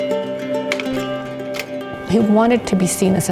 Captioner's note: projector clicks